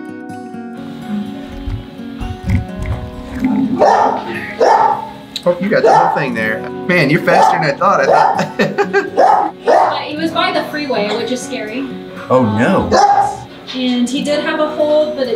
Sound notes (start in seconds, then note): 0.9 gentle guitar music; 7.2 laughing